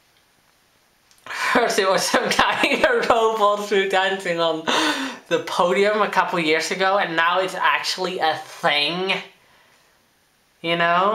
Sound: giggling

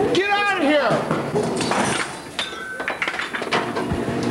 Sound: glass breaks

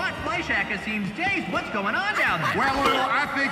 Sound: Harley giggles

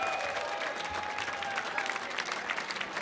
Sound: audience applauding and cheering

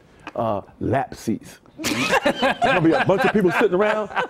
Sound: laughter

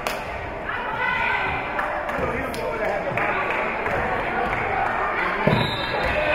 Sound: spectators shouting encouragements; whistle being blown

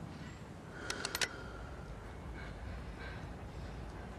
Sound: gun cocking

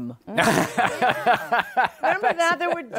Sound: laughter

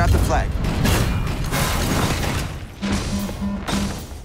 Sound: guns firing; alarm ringing

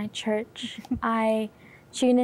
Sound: giggling

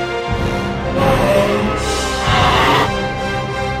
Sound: roaring; growls quietly

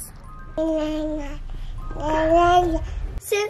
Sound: baby coos

